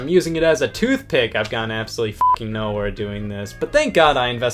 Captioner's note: beep